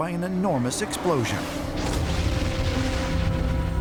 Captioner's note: explosion